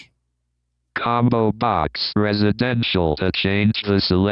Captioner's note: automated Voice